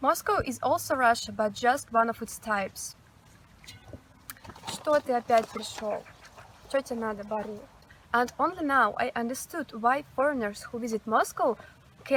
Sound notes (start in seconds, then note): 4.0 speaking doggy